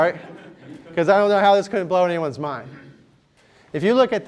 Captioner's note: laughter